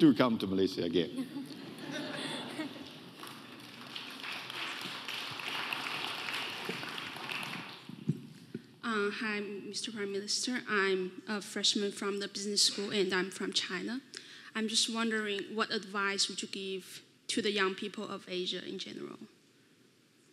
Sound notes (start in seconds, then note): 1.2 audience laughing; 4.1 audience applauding